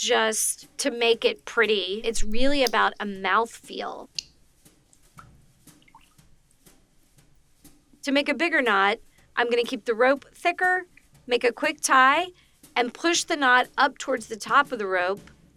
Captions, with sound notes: It's not just to make it pretty. It's really about a mouth feel. [water drips] To make a bigger knot, I'm gonna keep the rope thicker, make a quick tie, and push the knot up towards the top